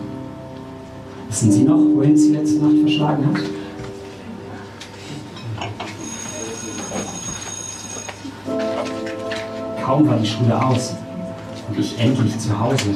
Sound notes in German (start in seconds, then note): 6.0 Schulglocke erklingt